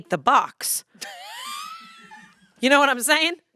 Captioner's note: laughs